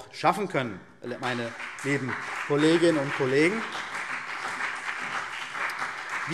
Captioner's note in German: Beifall CDU und BÜNDNIS 90/DIE GRÜNEN